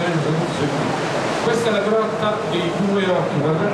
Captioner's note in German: Er spricht italienisch